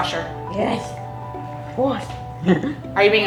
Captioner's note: laughs